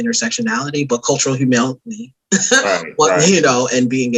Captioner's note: laughs